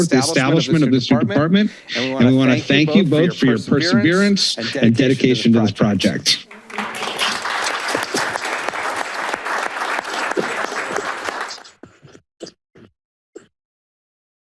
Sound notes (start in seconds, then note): 6.5 applause